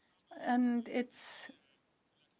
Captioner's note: speaking French